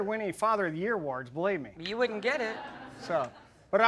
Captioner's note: audience laughing